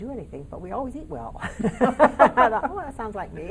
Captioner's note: laughing in unison